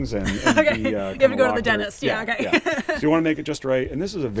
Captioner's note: laughs